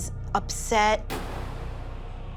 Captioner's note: loud bang